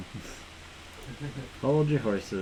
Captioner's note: laughs